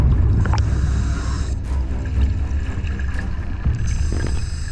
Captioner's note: audible breathing